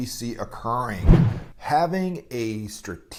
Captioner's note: whoosh